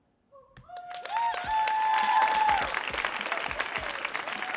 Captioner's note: audience applauding